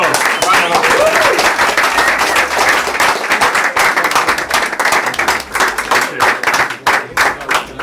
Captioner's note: applause